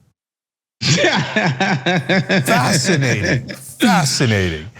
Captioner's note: laugh